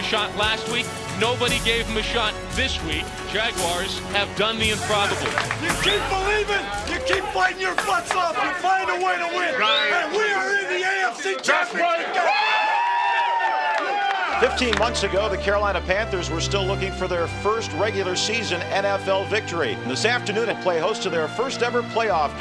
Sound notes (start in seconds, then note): 11.8 cheering